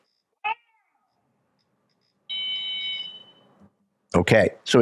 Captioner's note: handler shouts; whistle blows